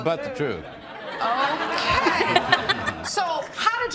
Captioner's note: laughter